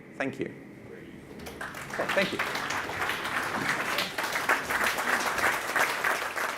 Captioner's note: audience claps